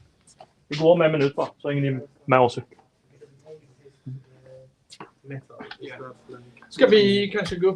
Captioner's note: speaking in Swedish